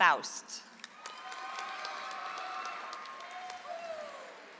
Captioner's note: audience applauds